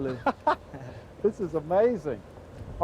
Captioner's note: laughing